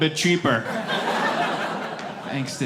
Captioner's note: laughter